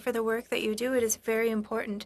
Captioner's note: speaking French